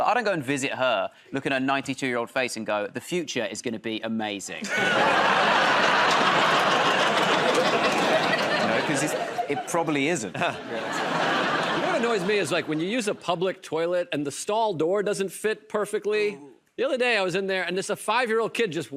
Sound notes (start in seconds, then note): 4.6 laughter and applause; 10.6 laughter